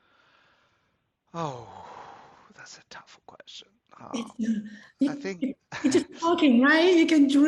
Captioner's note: laughs